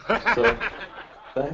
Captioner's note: laughter